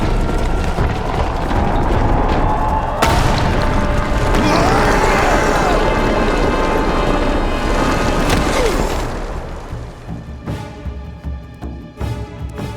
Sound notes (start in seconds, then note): 2.5 stomping; 3.5 screaming; 8.0 groaning